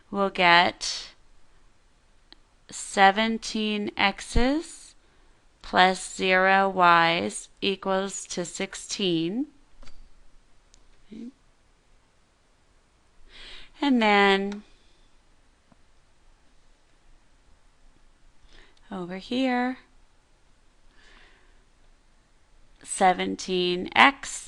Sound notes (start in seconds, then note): 13.2 pause